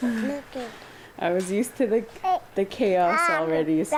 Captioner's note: laughter